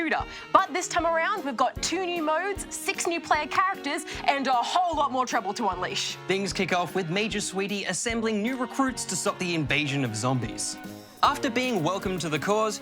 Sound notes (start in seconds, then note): none